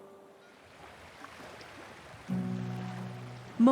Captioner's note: waves lapping gently